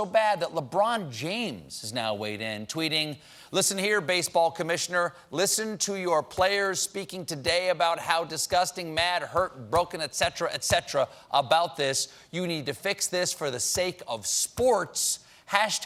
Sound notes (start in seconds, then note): none